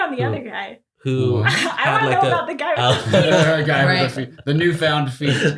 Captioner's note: laughs